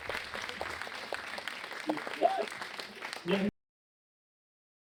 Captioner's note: audience clapping; clapping